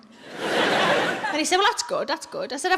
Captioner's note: audience laughs